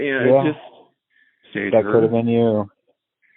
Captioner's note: on phone